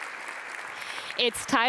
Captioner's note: audience applauds